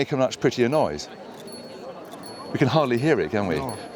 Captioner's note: faint chiming